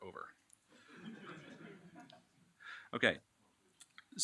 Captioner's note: laughing